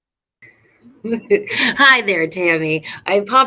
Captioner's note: laughter